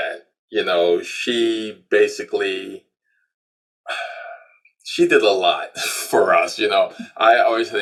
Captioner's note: sighs